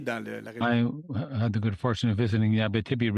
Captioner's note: speaking French